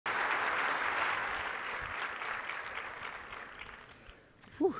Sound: audience applauding

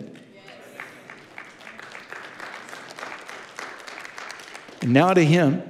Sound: congregation applauding

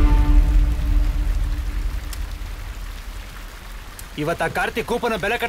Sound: water Sound

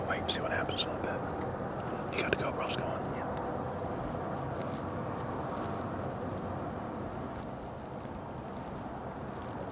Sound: whispering

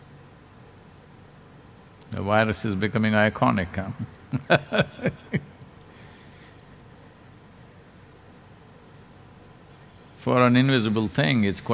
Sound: laughs

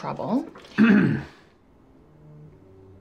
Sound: little "girl" clears throat

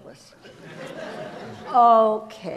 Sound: audience laughs

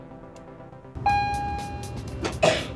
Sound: intercom dings

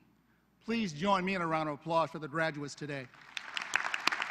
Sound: applause

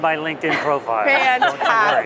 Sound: laughter

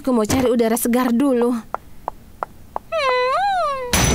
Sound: feet pattering; door closing

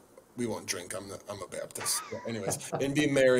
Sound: chuckles

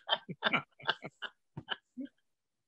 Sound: laughter

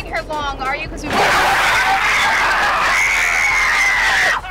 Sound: screaming

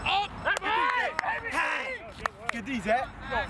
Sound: cheers

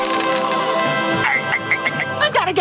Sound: chuckling

